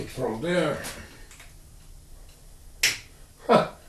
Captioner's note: wire cutters snap